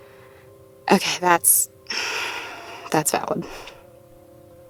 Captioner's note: sighs